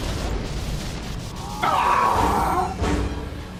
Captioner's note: exclaims